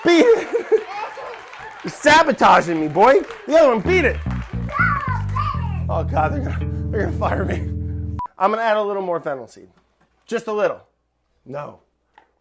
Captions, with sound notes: Beat it! [laughs] You're sabotaging me, boy. Beat it! [bass riff] Oh, God, they're gonna fire me. I'm gonna add a little more fennel seed, just a little, no --